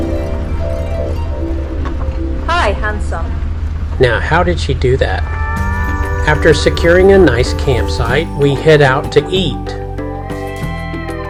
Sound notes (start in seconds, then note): 0.0 driving Sounds; 0.7 magic Wand Sounds